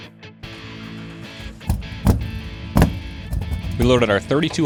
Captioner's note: engine starting